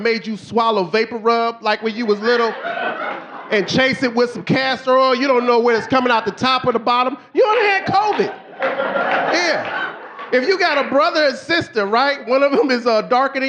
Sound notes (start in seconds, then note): 3.6 audience laughing; 9.6 audience laughing